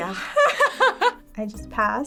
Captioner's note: laughing